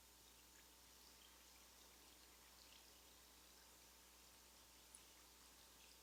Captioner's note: trickling water noise